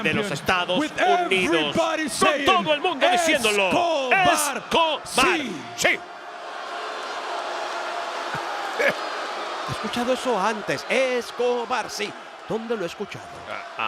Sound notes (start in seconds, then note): 6.4 applause; 8.6 laugh